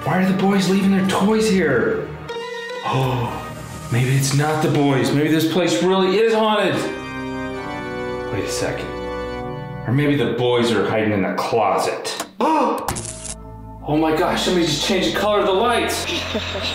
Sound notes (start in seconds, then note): 2.8 gasps; 12.3 gasps; 13.2 light switches on; 16.0 chuckles evilly